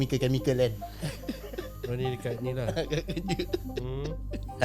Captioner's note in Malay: ketawa